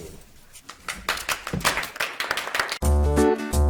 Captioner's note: audience applauding; buoyant music